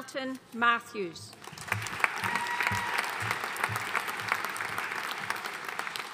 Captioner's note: audience cheering and applauding